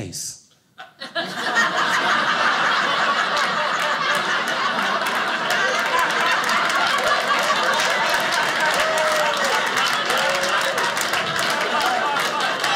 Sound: audience cheering

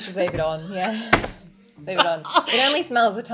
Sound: laughing

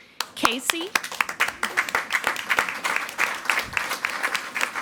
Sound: everyone applauding

